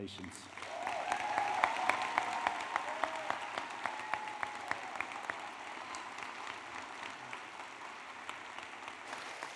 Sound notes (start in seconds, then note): 0.5 applause